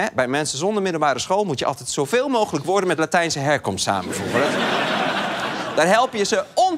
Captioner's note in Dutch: gelach